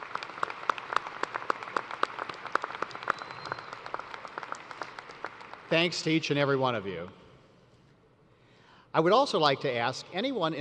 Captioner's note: applause